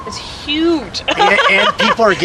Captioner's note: laughing